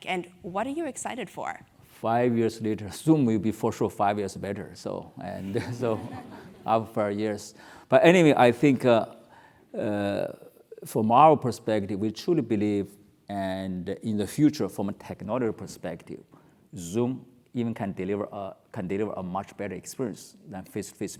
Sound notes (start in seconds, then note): 5.5 laugh